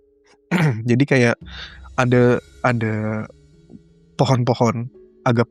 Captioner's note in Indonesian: berdehem